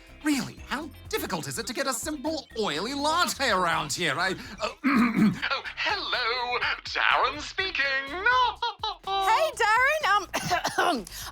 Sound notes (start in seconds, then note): 4.5 clears throat; 8.6 coughs